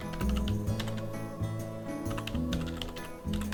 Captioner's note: typing